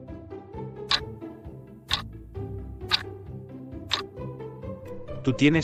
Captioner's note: FX - Clock Tick